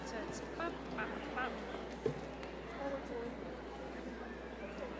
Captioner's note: staff chatting in background